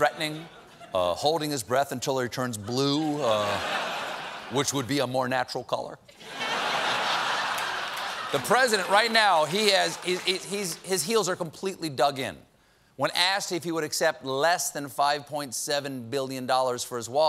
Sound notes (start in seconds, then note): 6.1 laughter